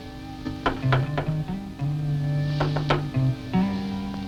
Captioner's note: knocking; somber music